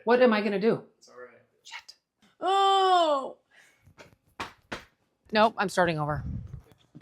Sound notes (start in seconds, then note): 2.4 groans; 4.3 hands thudding